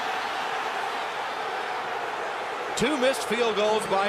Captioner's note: booing